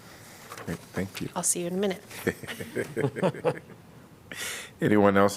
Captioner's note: laughter